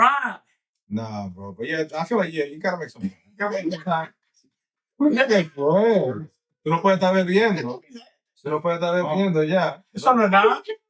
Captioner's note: speaking In Foreign Language